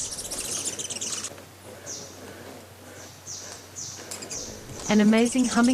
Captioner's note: birds chirping